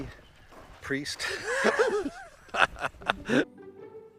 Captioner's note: both laughing; soft music